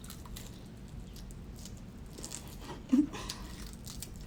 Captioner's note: chicken crunching